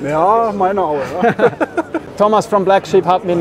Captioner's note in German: lachen